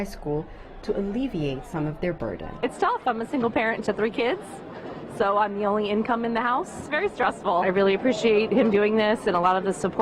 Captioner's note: cheering